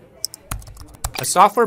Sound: text typing

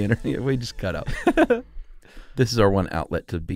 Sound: laughs

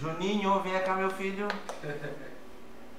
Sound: laughs

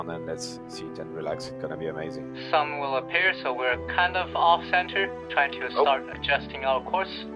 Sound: on the radio

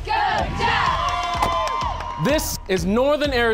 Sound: cheering

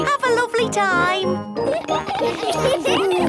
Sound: laughter

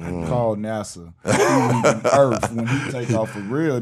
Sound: laughing

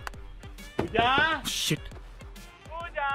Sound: knocks on door; knocks on door

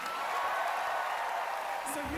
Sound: cheering, applause

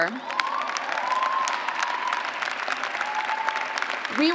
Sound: cheers and clapping

